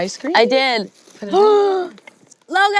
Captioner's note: gasps